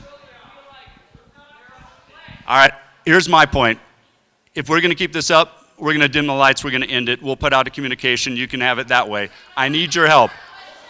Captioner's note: crowd shouting questions